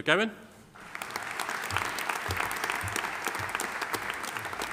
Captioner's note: audience applauding